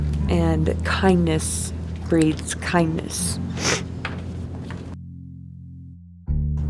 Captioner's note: sniffling